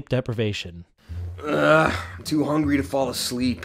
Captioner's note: groans